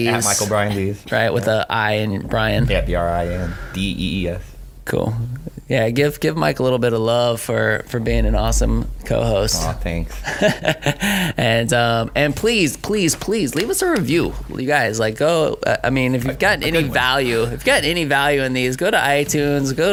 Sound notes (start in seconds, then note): 10.1 laughing; 17.5 laughs